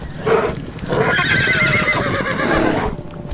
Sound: horses neigh; bear growls

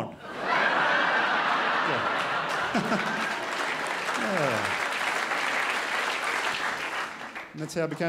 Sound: crowd laughs and applauds

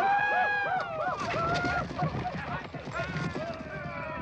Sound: men yelling

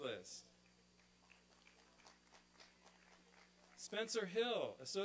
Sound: applause and cheering

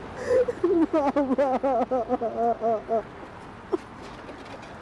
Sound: crying

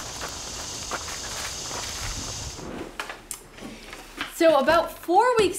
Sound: gravel crunching underfoot

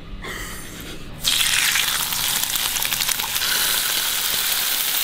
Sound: bacon sizzling

